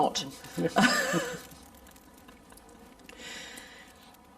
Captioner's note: both laughing